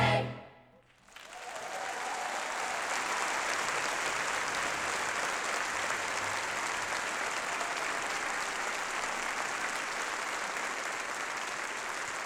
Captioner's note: applause